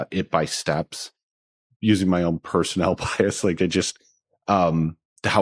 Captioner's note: chuckles